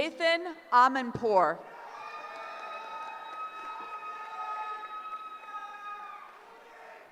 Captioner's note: cheering